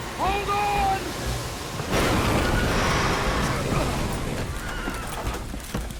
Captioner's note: the ship crashes into the rocks